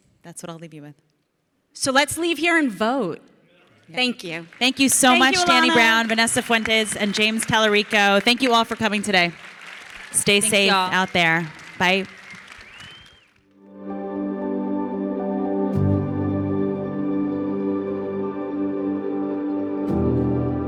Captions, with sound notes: That's what I'll leave you with. - So let's leave here and vote. Thank you. (audience clapping) - Thank you so much-- - Thank you Ilana. - Danny Brown, Vanessa Fuentes, and James Talarico. Thank you all for coming today. Stay safe. - Thanks y'all. - Out there. Bye. (light music)